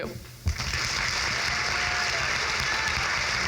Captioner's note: crowd claps